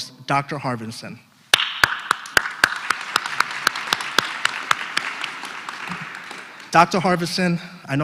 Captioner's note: applause